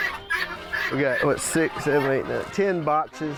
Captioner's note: chickens cluck